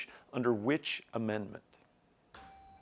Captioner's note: buzzer beeps